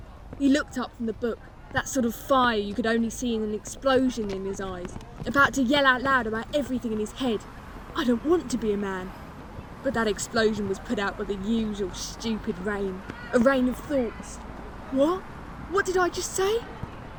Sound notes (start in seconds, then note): none